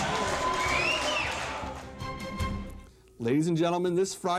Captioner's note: crowd cheering